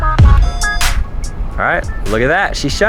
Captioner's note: beep